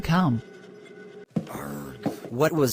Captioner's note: frustrated groan